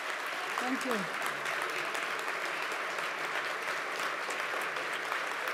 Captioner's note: sustained applause